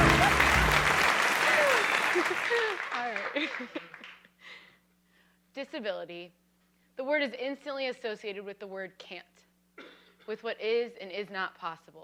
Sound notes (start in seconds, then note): 1.4 laughing